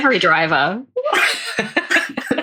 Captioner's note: laughs